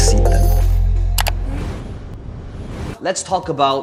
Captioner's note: air whooshing; mouse clicking